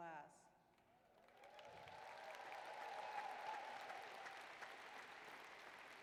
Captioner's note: applause